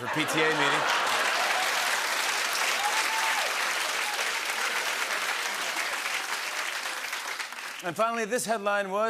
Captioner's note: laughter and applause